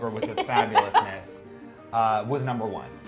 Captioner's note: laughing